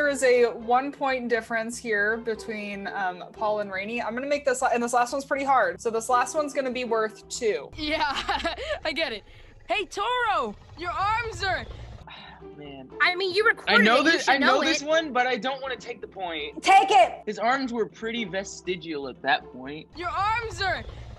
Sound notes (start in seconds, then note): 7.9 chuckles; 12.0 sighs